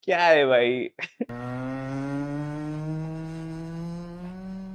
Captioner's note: humming